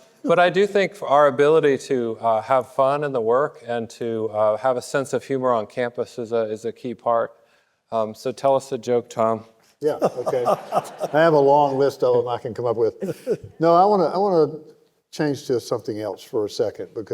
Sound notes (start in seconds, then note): 9.9 audience laughing